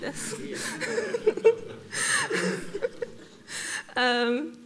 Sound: audience laughs

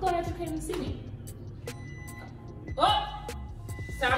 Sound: microwave beeping

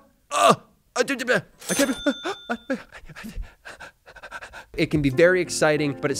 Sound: stutters; gasps

